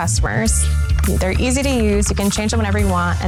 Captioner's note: keyboard clicking